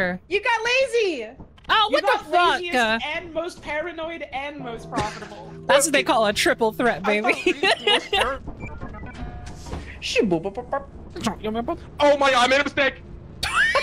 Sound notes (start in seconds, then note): 7.3 laughs; 8.4 ship door beeps and boops